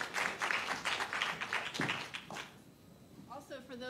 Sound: applause

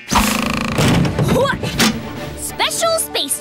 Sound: alarm sounding; grunting

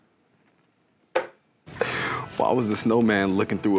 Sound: hand bangs on table

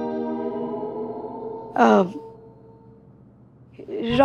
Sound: stammering

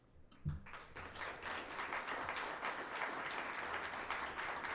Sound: audience clapping

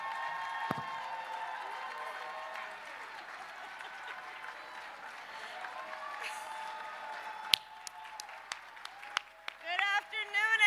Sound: applause

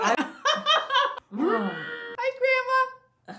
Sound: laughs; grunts

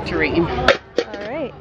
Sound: metal clang

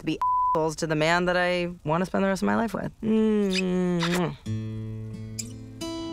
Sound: beeps; kisses; thoughtful acoustic music

